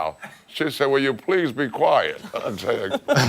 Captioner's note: laughter